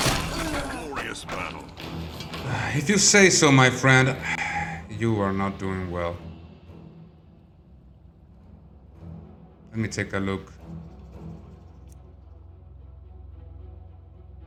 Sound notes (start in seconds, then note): 4.2 sigh